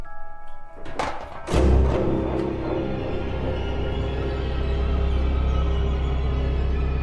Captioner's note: ominous music; rock thudding